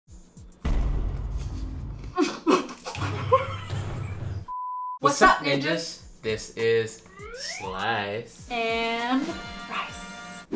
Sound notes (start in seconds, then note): 0.6 dramatic bang; 2.2 coughs; 2.2 laughs; 4.5 electronic beep; 7.0 slide whistle music; 8.9 triumphant fanfare